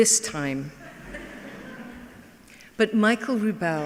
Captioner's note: laughing